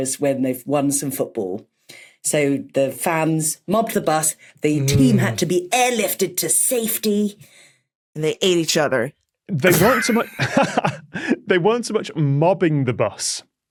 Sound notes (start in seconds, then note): 9.6 crack up